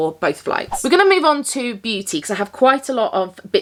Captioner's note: audio whooshing